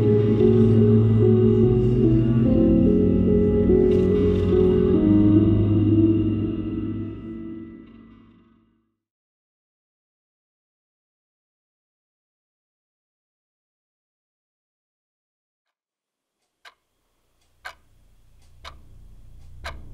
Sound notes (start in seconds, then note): 17.2 clock ticking